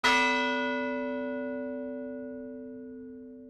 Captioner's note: bell chimes